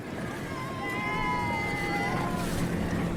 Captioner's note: cheers